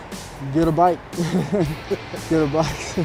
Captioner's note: laughing